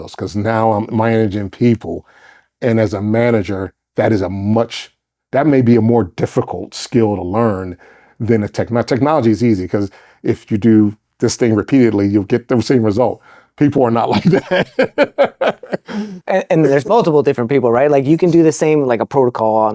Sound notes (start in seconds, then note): 14.1 laughing